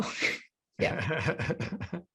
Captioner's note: chuckles